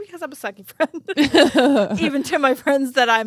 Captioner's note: both laughing